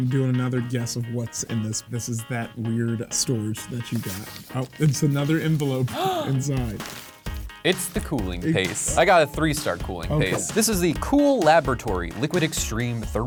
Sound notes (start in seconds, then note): 5.9 gasps